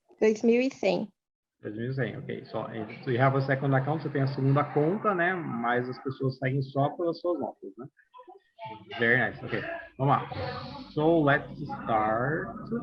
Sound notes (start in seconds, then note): 0.8 non-english speech; 2.0 non-english; 4.4 non-english